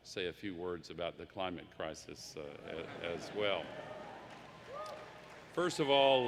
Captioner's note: laughter; applause